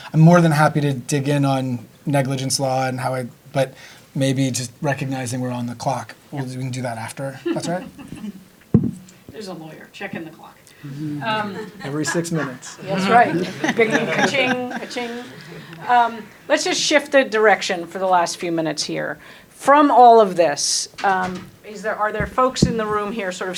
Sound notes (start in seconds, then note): 10.8 laughing